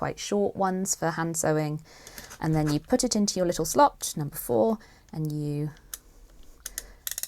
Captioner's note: gadget ticks